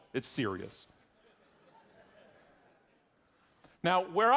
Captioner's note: audience laughing